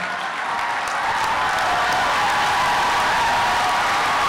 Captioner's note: applause